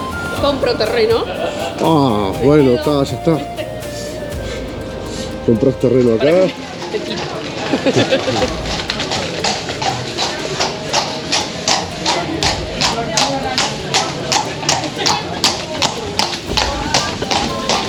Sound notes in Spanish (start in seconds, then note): 7.6 risas; 9.5 sonido de trote de caballos sobre una calle de piedra